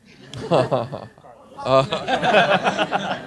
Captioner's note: laughing